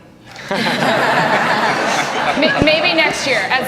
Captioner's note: laughing